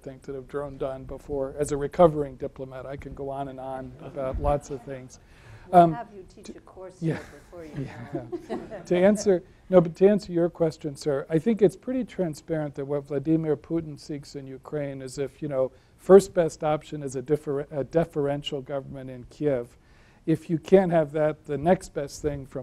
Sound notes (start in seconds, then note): 7.5 laughing